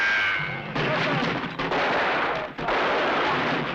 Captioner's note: bullet ricochets; guns firing